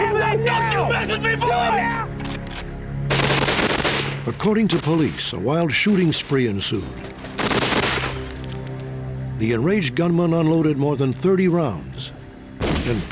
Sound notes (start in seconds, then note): 3.0 gunfire; 7.3 gunfire